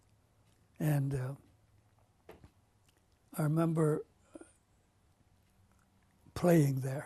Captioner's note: pauses for 3 seconds